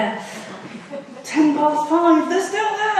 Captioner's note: audience laughs